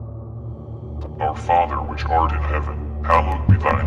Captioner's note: dark Voice